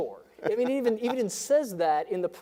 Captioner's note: laughin